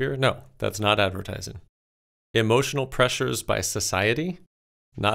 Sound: none

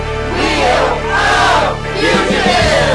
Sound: crowd

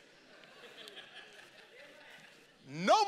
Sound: congregation laughing

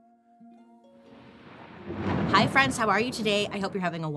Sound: thunder crashing

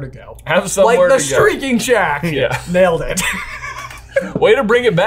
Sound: laughs

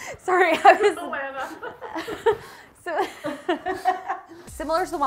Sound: laughing

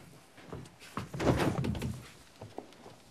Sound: thud

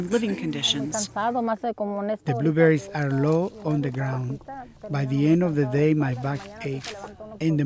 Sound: woman speaking Spanish

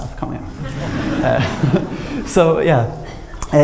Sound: laughter

